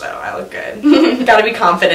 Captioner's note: laughs